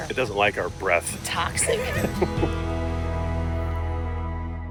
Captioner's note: laughs